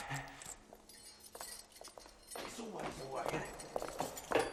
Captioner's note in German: Schlüsselklirren